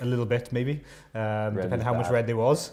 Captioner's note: laughter